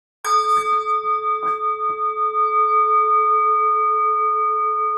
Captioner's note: chime